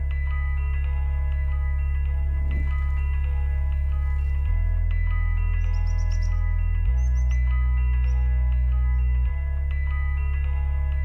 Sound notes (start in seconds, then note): 5.5 bird chirping